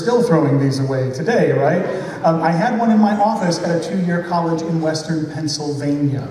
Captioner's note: laughter